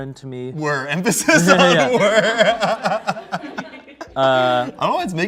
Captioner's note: laughs